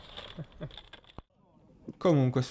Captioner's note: me laughing